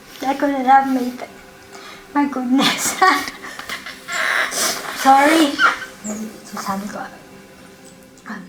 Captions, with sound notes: I COULDN'T HAVE MADE IT. MY GOODNESS. (LAUGHS IN BETWEEN TEARS) SORRY.